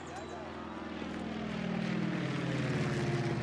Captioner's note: helicopter passes overhead